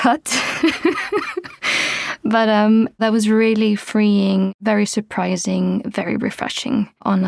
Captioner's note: laughs